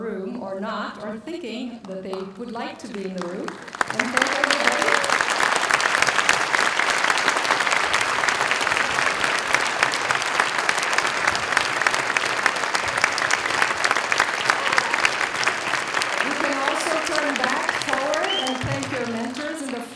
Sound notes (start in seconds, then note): 4.3 applause